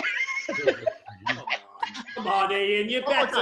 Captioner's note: group laughs